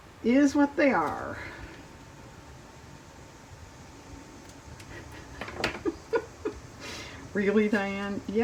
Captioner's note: laughs